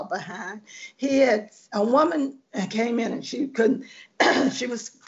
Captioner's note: clearing throat